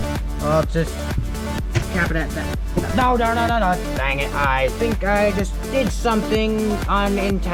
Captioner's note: bang